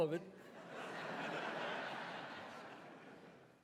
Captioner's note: audience laughs